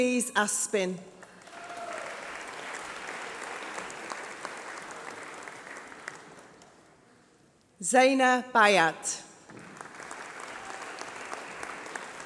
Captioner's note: applause